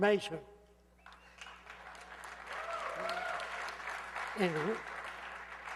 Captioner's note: gritos y aplausos